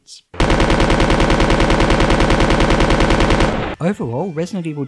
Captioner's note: rapid shooting sound effect